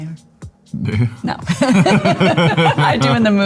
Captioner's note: both laughing